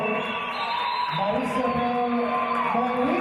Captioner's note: referee's whistle